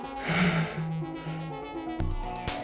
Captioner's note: yawns